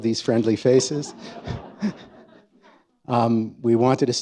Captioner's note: chuckles